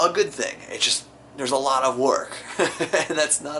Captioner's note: laughs